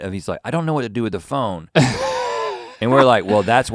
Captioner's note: Link laughing